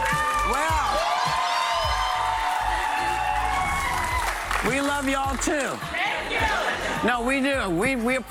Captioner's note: applause